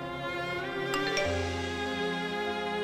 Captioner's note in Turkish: Mesaj Sesi